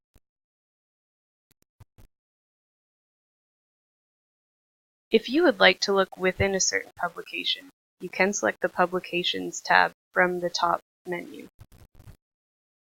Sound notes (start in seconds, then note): 1.6 silence